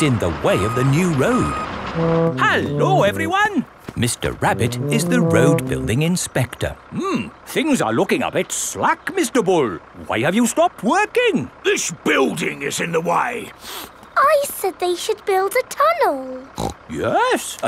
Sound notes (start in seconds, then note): 13.6 sniffs; 16.5 snorts